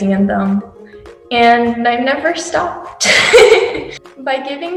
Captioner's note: laughs